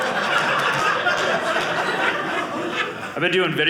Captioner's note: audience laughing